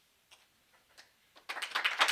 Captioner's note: clapping